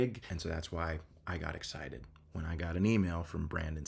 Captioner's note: none